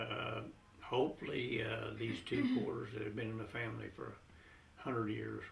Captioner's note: laughter